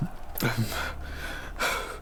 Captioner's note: panting